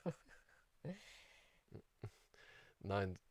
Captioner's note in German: lacht